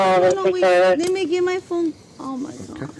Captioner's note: radio chatter